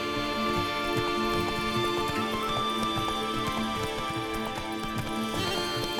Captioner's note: hoofbeats